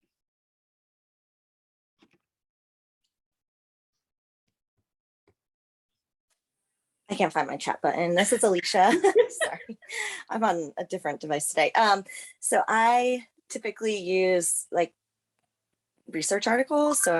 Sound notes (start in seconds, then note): 8.2 laughter